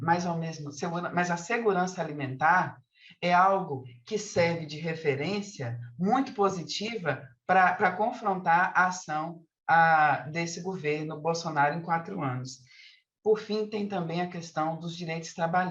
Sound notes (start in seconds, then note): 5.0 continues speaking in Portuguese